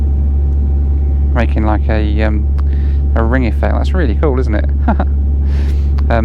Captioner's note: laughs